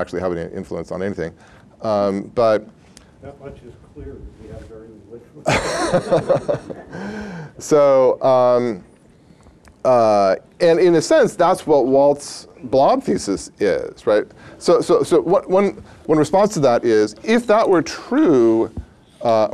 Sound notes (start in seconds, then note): 5.4 laughter